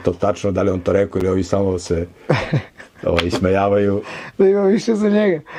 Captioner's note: laughing